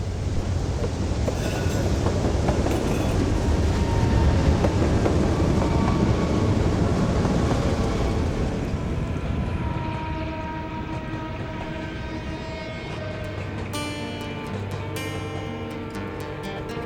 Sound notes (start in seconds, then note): 9.9 train horn blowing